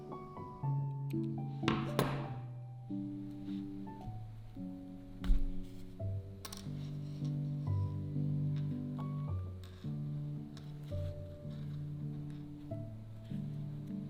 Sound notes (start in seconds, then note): 1.7 scissors thud; 10.6 bright music continues